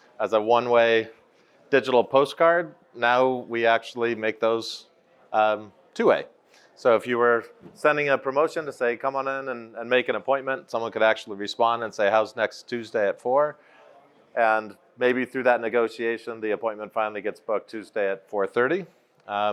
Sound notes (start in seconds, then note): none